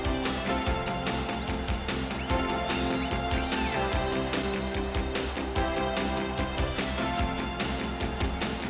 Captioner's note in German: beifall